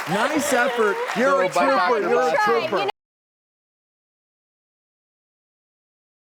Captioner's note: laughs